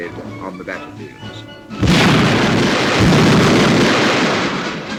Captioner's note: bombs exploding